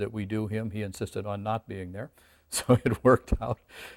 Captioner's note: laughs